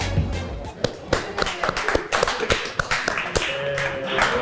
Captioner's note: applause